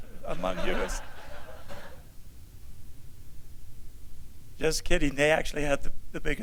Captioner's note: laughter